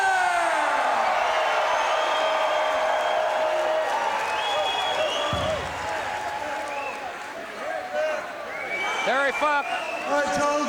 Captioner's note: crowd cheering